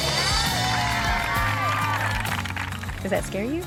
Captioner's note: all cheering